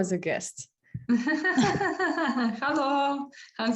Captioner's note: laughter